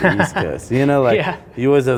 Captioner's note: laughs